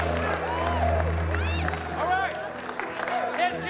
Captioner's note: all cheering